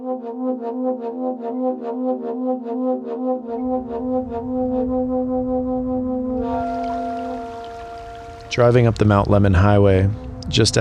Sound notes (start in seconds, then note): 0.1 loud horn music begins; 6.4 water flowing